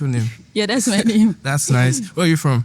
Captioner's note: laughing